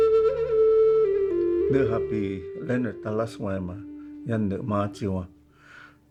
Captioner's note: introducing himself in Hopi